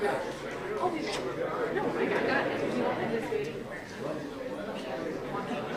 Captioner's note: none